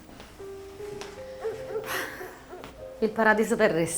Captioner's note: Mrs. Lamberti sighs